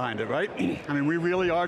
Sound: clears throat

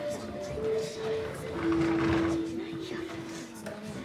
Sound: whispering voices

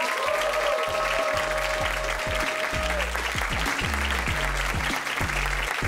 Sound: audience applauding

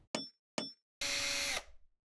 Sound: hammer tapping; power drill whirring

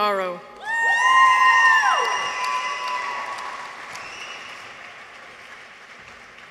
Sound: people cheer; audience applauds

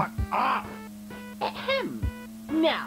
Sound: ahem

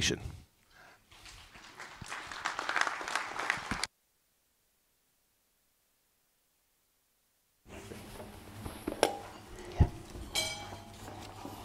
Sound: applause

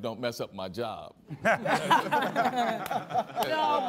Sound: all laughing

